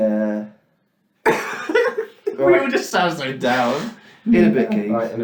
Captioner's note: laughs